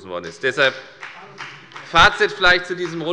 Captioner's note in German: Beifall bei der FDP